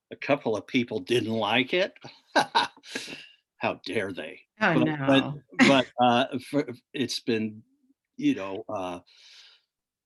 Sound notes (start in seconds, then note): 2.0 laughs; 5.6 chuckles